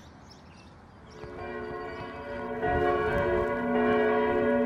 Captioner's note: bells tolling